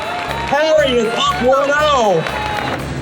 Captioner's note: cheering continues